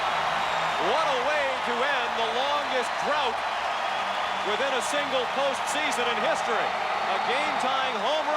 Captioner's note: applause; cheering and Applause; applause; cheering and Applause